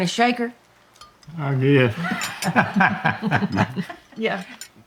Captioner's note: laughs